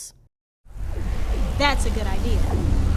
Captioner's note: electric buzzing